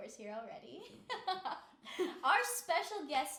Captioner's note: laughing